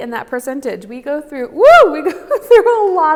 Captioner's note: exclaims